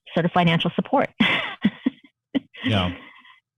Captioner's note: laughter